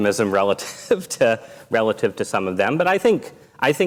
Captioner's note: laughs